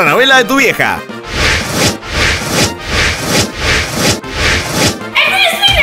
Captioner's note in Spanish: ruidos de giro